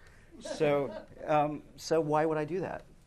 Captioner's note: laughter